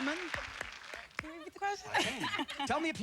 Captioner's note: laughs